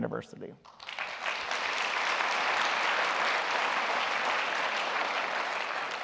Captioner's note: applause